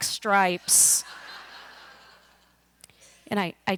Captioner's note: laughter